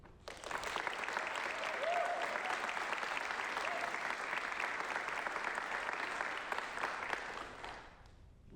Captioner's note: applause